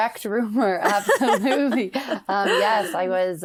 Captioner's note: laughs